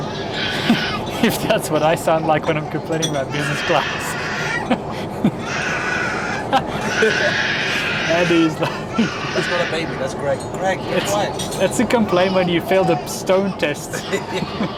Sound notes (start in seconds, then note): 4.7 laughs; 5.3 baby screaming